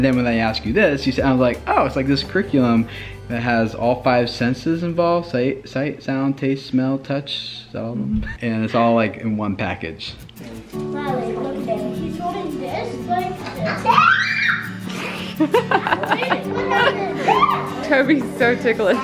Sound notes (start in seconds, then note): 13.6 child screaming; 14.8 laughing